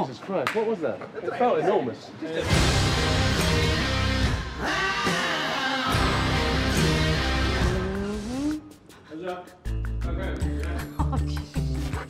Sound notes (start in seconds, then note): 2.4 dramatic music; 4.6 man vocalizing; 9.3 playful music